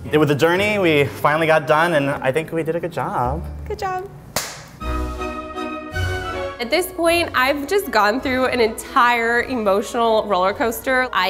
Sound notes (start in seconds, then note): 4.4 smacks; 4.7 dramatic music